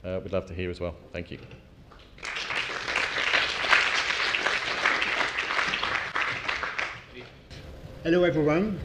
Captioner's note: applause